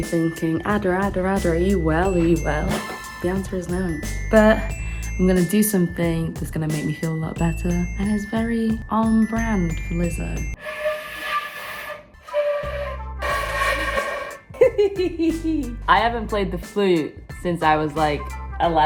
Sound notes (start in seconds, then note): 10.6 flute blowing; 14.5 laughing